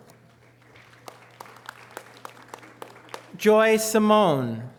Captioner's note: audience applause